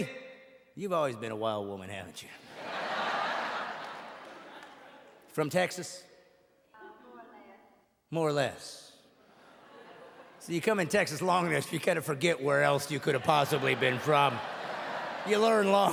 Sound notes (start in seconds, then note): 6.5 audience laughing